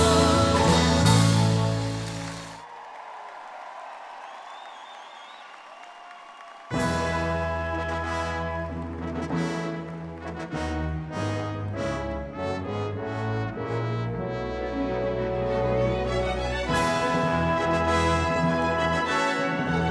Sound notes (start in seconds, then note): 2.9 audience clapping and cheering; 11.5 triumphant music